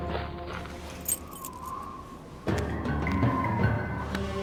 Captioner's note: bagged items clinking; dramatic music